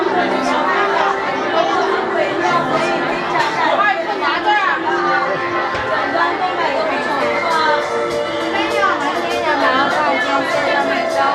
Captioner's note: crowd chattering